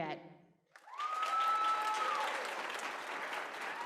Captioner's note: applause